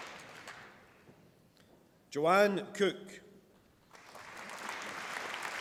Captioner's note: applause